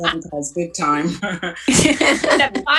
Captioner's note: laughs